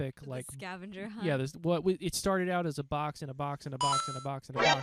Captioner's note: video game sound effects